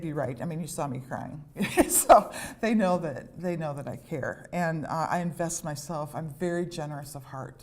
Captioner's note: laughter